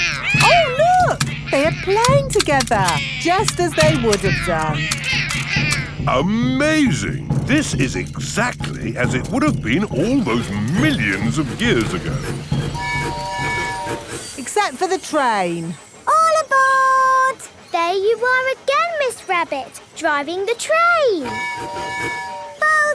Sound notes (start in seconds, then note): 12.5 train tooting; 21.2 tooting